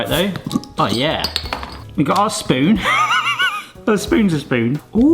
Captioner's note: laughs